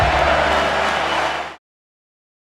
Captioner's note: audience clapping